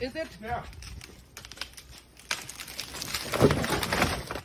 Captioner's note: tree cracks and thuds